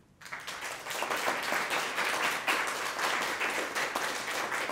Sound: audience applauding

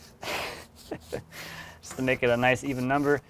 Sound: laughing

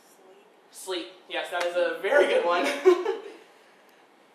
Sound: laughing

